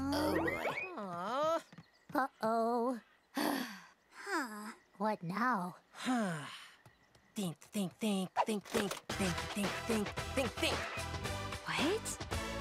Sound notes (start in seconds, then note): 3.3 sighs; 5.8 sighs; 9.0 rhythmic music playing